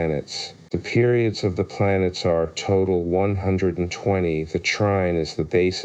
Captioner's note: Latin